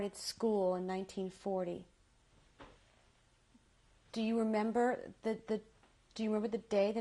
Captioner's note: pauses for 3 seconds